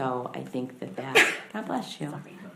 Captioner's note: woman sneezes